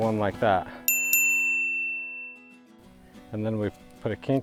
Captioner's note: bell rings